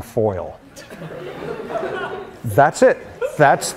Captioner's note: laughter